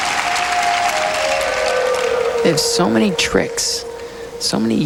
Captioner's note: crowd cheering